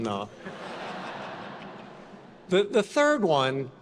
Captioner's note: attendees laughing